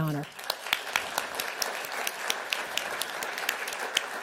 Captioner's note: applause